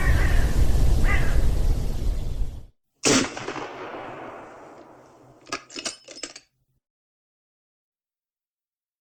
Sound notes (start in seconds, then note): 3.0 gun firing; 5.4 glass breaking